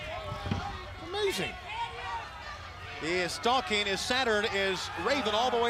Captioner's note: crowd chatter